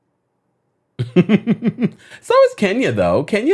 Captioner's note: laughs